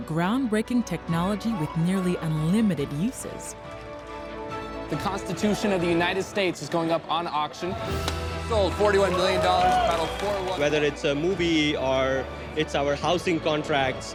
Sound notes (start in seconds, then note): 7.7 cheers and applause